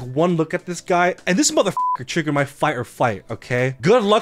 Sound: beep

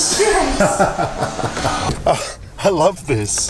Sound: laughing

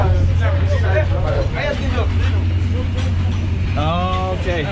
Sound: speaking in foreign language

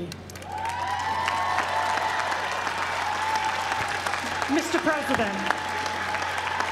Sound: applause

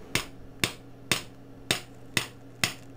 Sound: tapping

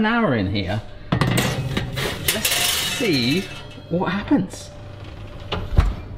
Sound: tray clangs

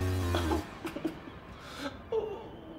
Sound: Charles groaning in distance

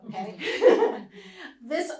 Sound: laughs

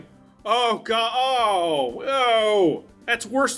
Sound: disgust

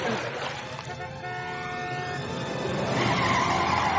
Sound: honking

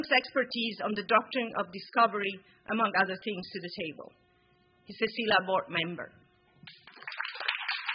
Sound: applause

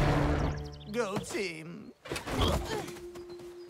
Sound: woozily

